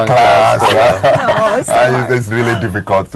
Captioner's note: all laughing